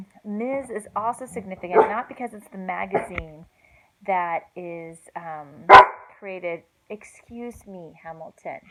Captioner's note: Hamilton, the dog barking